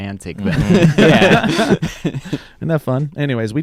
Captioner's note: laughing